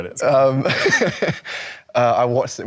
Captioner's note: Leo chuckles